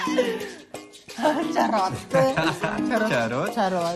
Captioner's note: chuckles; laughs